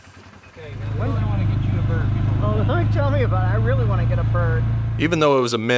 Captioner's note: laugh